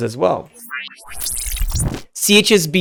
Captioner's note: electric whooshing